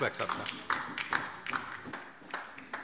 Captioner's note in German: Beifall DIE LINKE